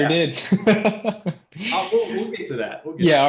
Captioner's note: laughter